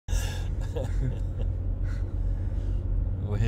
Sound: laughing

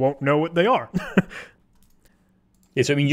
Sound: chuckling

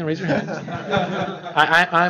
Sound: laughter

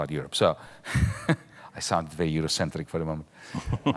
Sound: laughs

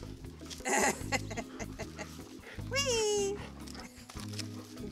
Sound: laughing

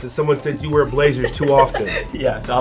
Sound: laughs

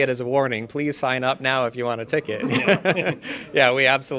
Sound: laughs

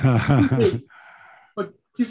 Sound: laughing

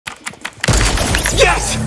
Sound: keyboard clicking and video game weapon fire

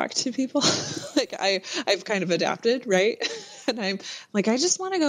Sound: laughs

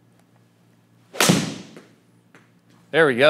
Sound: golf club striking board

